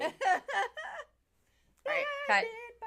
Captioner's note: laughing